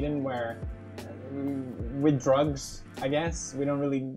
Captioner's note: uuuhnnngngng